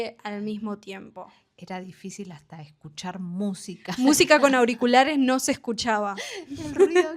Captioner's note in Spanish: risas